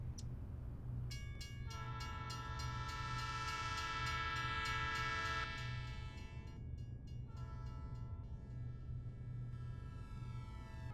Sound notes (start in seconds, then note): 0.8 train crossing clanging; 1.6 train horn blows